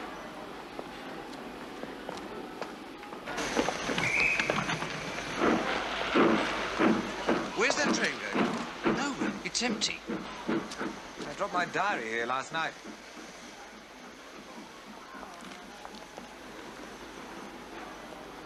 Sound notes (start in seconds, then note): 3.9 whistle blows; 5.3 train chuffing